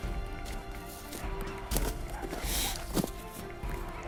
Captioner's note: soft music; shuffling